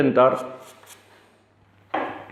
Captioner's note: chalk sound